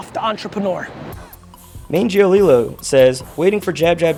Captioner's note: voiceover